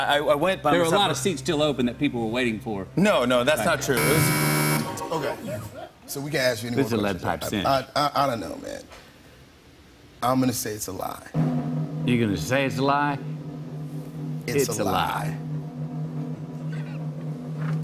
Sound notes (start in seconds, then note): 3.9 buzzer; 11.3 drum roll